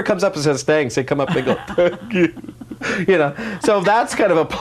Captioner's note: sobbing